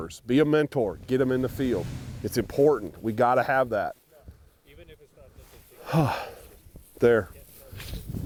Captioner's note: sigh